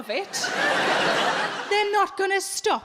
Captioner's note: audience laughing